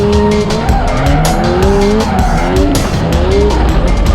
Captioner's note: tires squealing